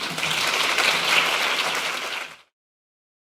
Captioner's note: applause